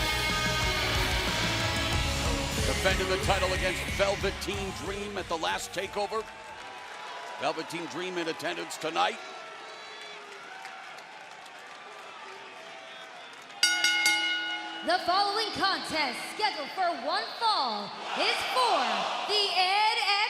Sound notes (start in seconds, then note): 15.1 bell ringing